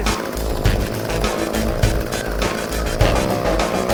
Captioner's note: engine revving